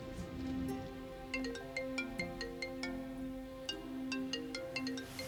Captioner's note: phone ringing